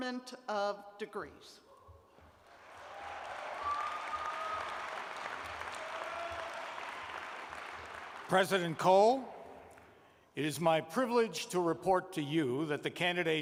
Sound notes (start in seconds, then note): 4.2 cheers and applause